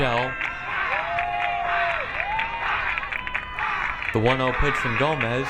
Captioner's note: crowd cheering